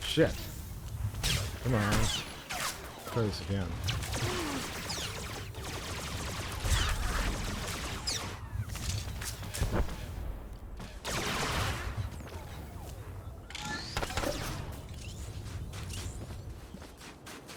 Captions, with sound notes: Shit. Come on. Close again. [gunshots]